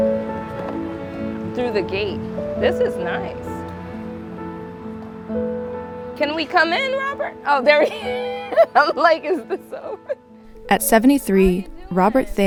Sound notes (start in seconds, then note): 10.3 laughs